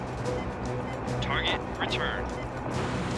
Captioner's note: man over radio